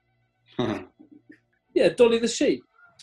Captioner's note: chuckles